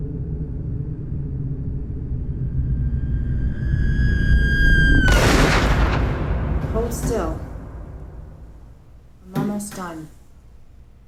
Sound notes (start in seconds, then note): 3.1 gunshot; 3.6 screaming